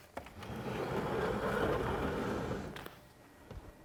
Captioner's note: chair scraping